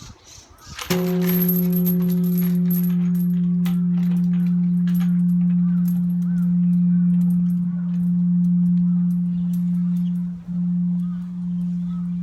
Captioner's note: bell ringing